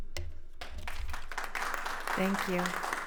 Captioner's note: attendees applauding